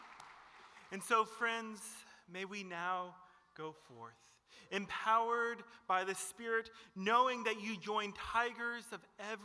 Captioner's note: applause